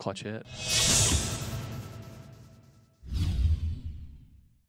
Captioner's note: sound effects